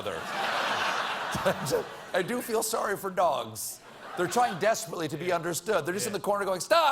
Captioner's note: laughter